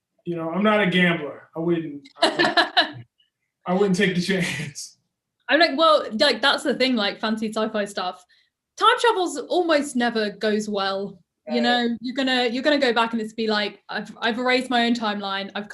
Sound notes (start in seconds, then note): 2.1 laughs